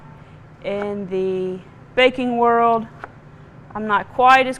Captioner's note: knife thudding